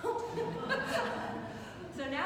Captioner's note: students laughing